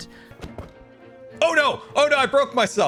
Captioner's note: smack